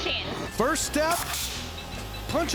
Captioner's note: grinding, cutting sound